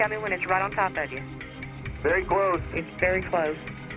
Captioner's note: on phone; on phone